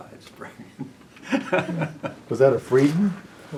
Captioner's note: laughs